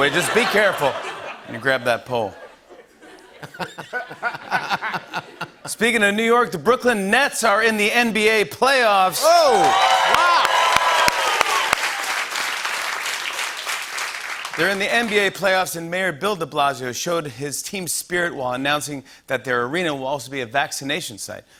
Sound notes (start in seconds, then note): 2.2 laughter; 9.2 cheering and applause